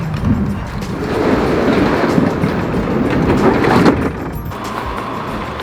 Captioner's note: garage door whirring